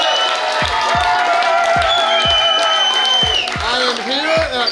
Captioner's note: cheering & Clapping